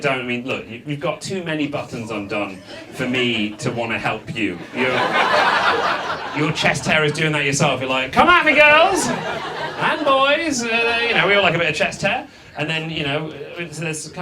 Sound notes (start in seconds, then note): 4.9 audience laughs